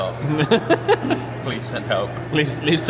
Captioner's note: laughs